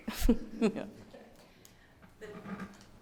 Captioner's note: laughs